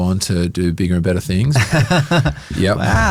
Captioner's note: laughs